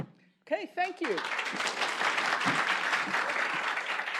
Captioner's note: applause